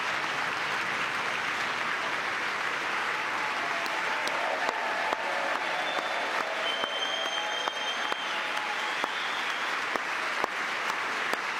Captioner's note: cheering; applause